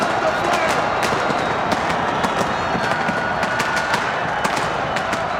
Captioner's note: fireworks booming